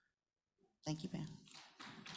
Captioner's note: applause